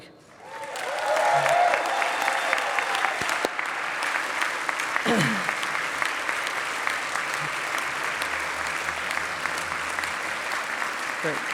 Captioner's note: applause